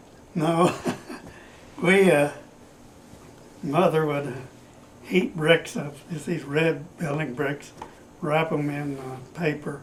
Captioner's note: laughs